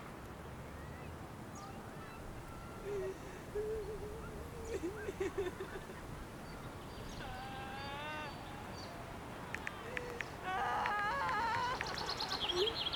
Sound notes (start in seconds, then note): 3.9 heavy sobbing